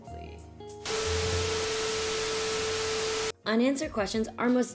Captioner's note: television static